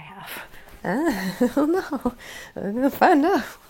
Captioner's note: laughing